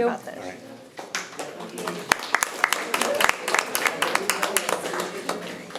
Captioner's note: audience applauding